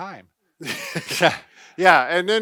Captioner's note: laughs